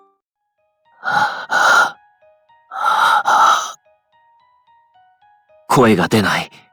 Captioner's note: panting